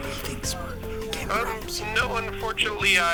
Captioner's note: whispering